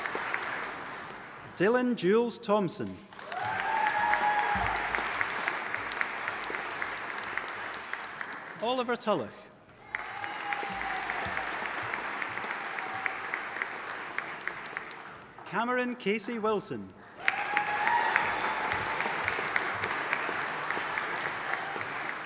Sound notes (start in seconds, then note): 3.1 audience applauding; 9.8 audience applauding and cheering; 17.1 audience applauding and cheering